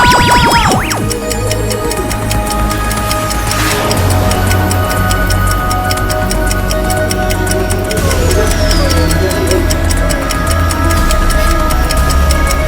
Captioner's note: electronic wooshing and ticking